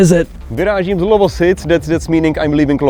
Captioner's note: speaking in Czech